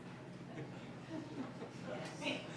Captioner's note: laughs